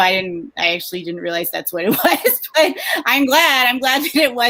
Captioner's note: laughs